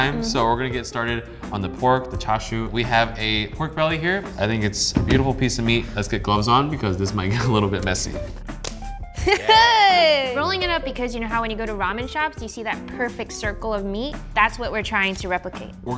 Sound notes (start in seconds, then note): 8.5 gloves snapping; 9.1 laughter